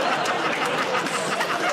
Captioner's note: laughter